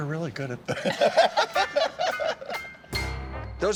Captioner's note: all laughing